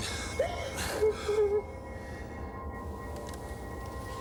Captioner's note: Jodie sobbing